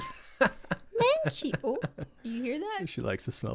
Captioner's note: in a high pitched voice